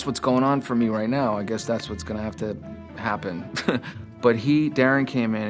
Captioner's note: chuckles